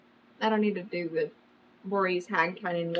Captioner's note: none